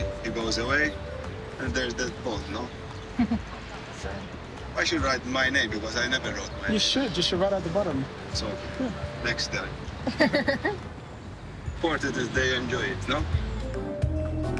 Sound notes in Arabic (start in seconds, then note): 10.0 تضحك; 14.3 موسيقى مبهجة